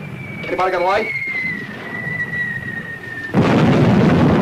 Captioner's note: missiles whistling; explosion booming